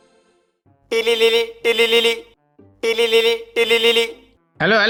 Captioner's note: phone ringing